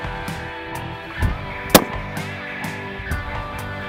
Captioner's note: gun Shot